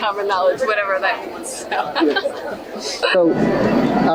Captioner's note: laughs